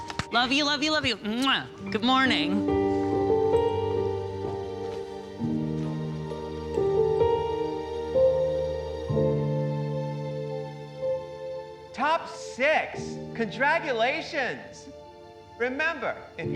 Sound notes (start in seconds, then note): 0.3 clapping; 2.5 smooches; 4.7 somber music